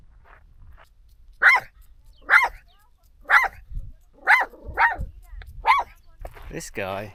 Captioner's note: barking